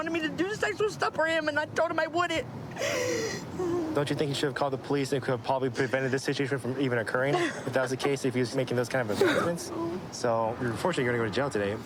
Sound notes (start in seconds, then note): 2.7 sobbing